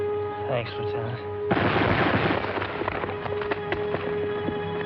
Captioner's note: gunshots